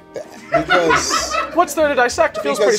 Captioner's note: people laughing